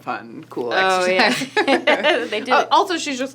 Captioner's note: laughing